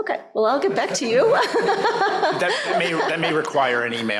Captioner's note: laughter